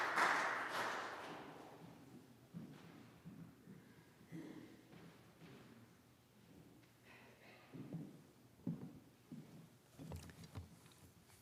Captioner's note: applause